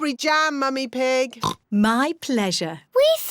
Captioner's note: oinks